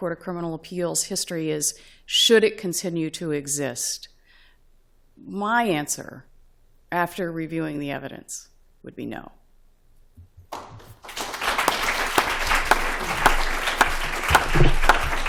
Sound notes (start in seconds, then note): 10.5 applause